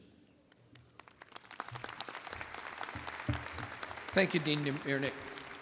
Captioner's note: attendees applauding